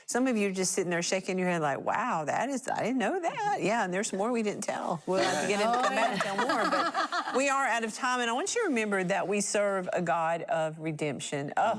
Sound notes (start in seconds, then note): 5.2 laughing